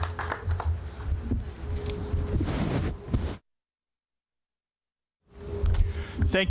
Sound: applause

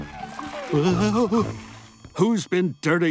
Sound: groaning

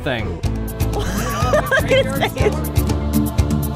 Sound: laughing

